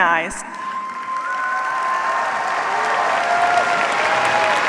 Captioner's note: cheers, applause